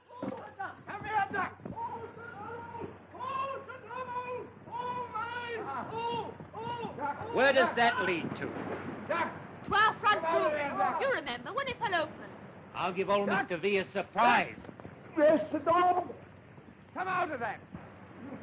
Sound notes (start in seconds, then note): 0.1 film playing loudly; 7.5 shouting